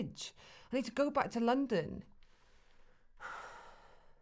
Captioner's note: sighs